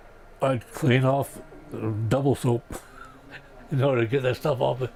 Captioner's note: chuckles